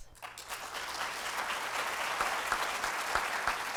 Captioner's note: applause